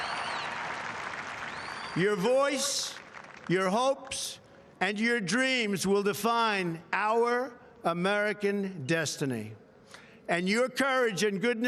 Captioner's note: applause